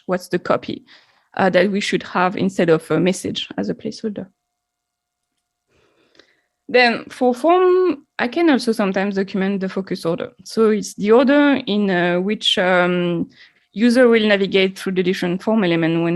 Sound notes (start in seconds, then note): 5.2 mouse clicking